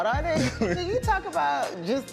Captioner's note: chuckles